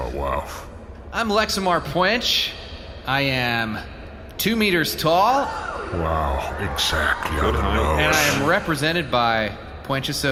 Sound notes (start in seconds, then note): 4.0 a gasp, audience starts cheering